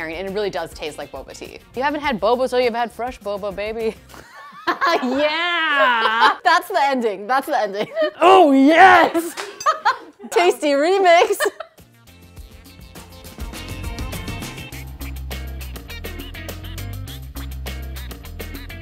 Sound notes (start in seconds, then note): 4.2 laughs; 9.2 everyone laughs; 11.8 retro music